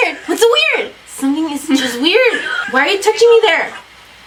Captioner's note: laughs